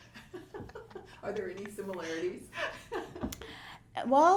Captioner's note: laughs